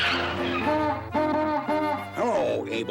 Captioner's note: honking